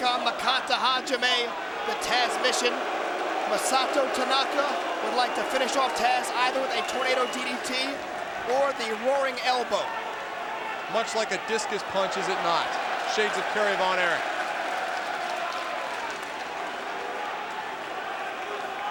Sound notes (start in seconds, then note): 14.8 crowd vocalizing